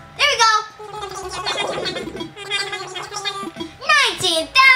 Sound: Animalese murmuring

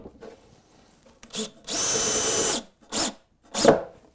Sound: screw gun

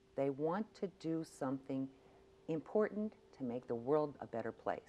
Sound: none

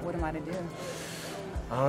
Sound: deep Inhale

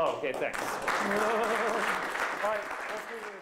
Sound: applause

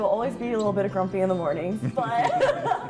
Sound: laughs

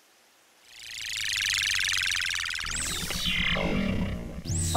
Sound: spaceship noise

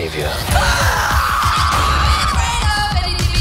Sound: screaming

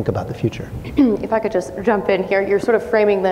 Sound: clears throat

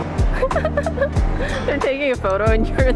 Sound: laughing

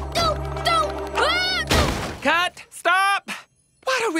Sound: shouts disoriented; thud

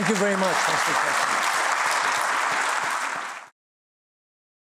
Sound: applause

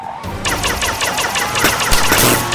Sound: blasting; electric crackling

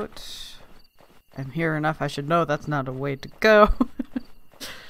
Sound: laughs

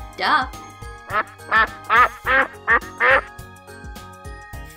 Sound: duck quacking

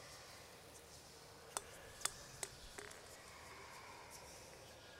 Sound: bulb clinking

